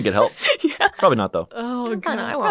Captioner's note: laughs